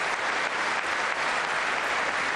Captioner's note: applause